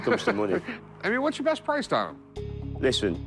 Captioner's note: laughs